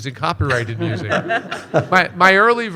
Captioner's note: panelists chuckling